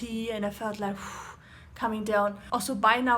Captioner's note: exhaling